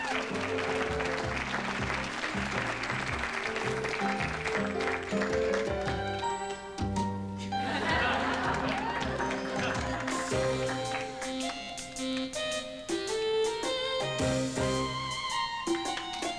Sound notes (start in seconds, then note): 7.6 laughter